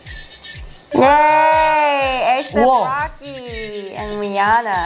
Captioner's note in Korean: 비명